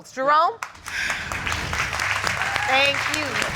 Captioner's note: audience applauding